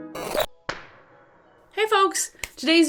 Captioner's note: hands clapping